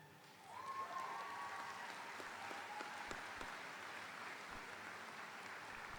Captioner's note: audience applauding; audience cheering